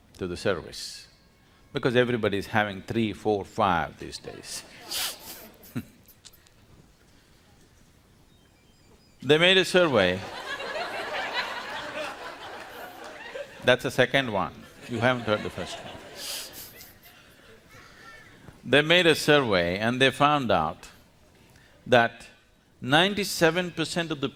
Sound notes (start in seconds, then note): 4.3 laughs; 9.8 laughter